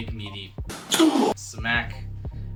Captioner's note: grunting